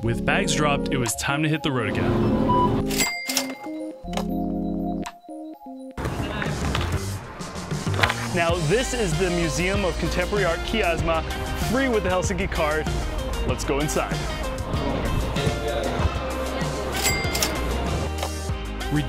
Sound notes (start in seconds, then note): 2.0 beeps; 3.0 dings; 16.6 dings